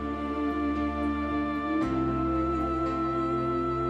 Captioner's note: humming